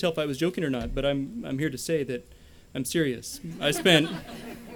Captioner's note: laughter